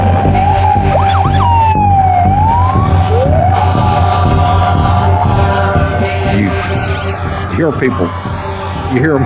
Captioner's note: sisirerens w waiailing